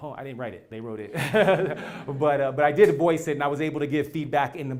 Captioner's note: laugh